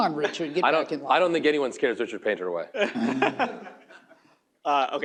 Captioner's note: laughter